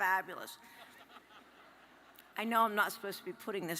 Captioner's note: audience laughs